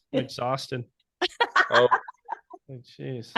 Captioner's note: laughing